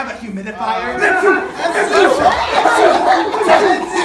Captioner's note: violent sneezing